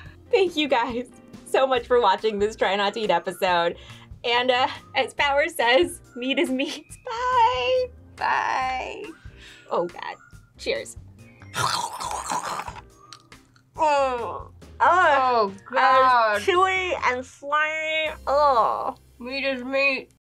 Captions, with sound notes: - Thank you guys so much for watching this Try Not to Eat episode. And as Power says, meat is meat. Bye! - Bye. - Oh, god. Cheers. - (makes loud chewing noises) Ugh. Oh, god! - It's chewy and slimy. Ugh. - Meat is meat.